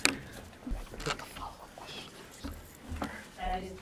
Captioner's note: students whisper